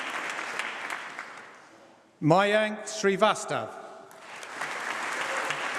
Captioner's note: applause